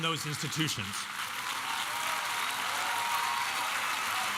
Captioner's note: applause